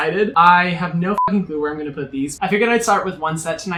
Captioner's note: beep